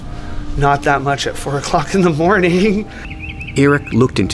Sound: chuckling

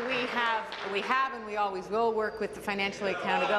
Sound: applause

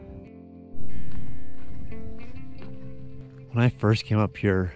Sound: boots crunching on gravel

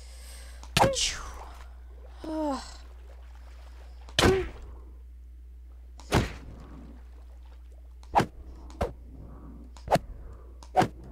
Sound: makes more sound effects

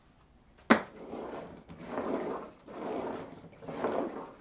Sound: roller thumping

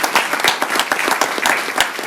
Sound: applause

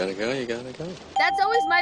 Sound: ding

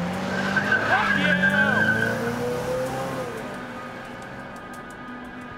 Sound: tires screech; anxious electronic music

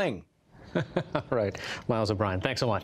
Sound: laughter

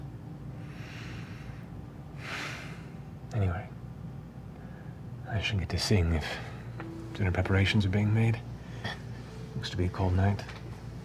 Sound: sighs

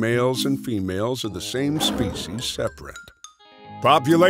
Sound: roaring

